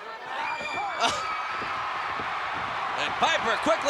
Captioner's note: chuckles